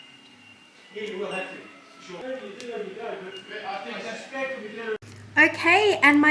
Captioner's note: chatter in the background